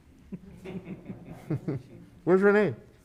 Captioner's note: chuckles